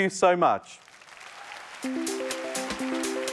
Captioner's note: applause